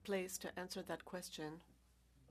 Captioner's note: speaking french